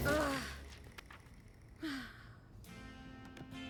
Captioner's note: groan; sigh